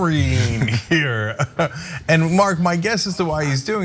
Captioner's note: laugh